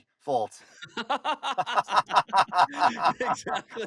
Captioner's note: laughter